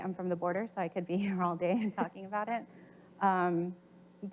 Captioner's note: chuckles